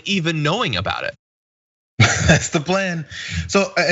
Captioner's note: laugh